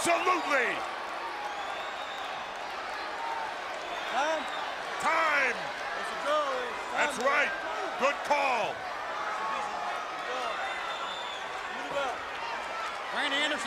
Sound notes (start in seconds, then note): 2.3 crowd chatter